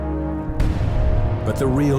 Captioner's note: explosions booming